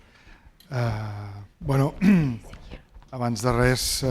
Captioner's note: speaking spanish